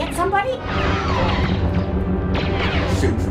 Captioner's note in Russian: выстрелы лазеров